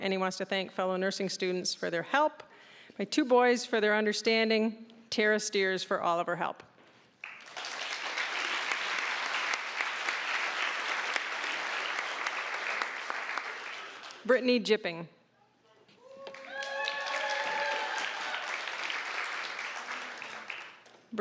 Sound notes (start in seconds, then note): 7.2 applause; 16.1 applause, cheering